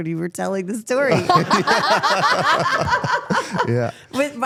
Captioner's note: participants laugh